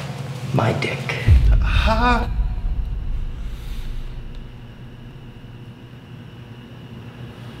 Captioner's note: light dramatic music; police chief gasps